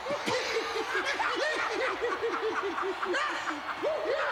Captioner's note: laugh